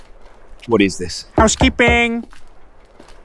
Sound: knocks

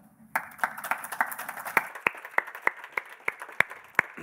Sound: audience applauding

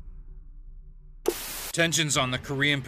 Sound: static buzzes

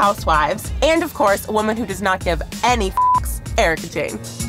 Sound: beep

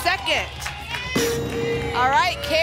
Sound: ping

